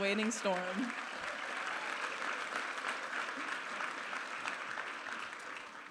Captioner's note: audience applauding